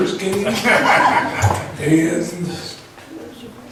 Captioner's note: laughs